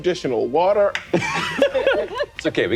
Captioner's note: laughing